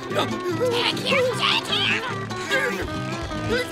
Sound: straining

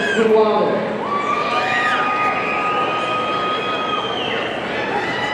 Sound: audience cheering

